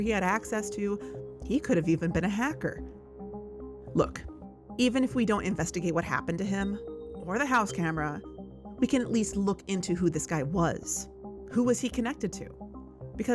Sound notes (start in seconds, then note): none